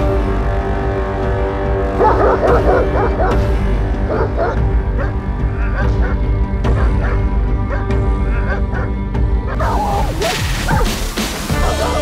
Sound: dog barks

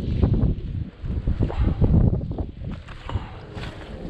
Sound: wind whooshing

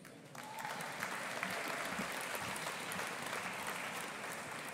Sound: audience applauding

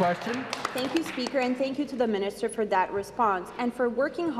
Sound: applause

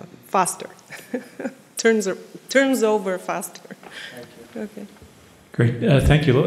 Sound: chuckles

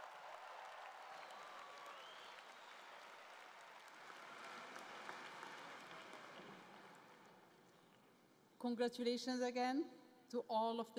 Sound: cheering and Applause

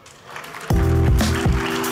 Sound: clapping; bouncing, groovy music

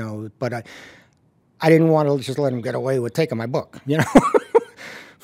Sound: laughs

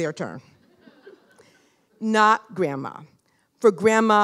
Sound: laughter

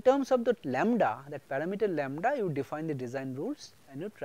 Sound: noice Signal

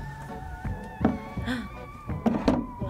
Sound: gasps

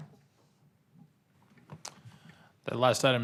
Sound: silence

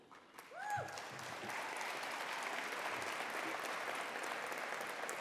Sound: attendees applauding

